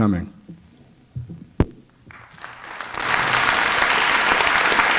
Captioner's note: applause